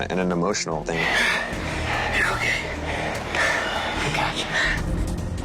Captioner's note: breathing heavily